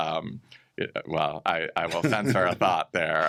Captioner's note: chuckles